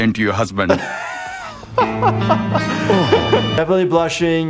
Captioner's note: laughing